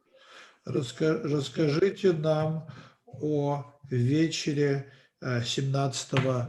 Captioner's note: translator speaking Russian language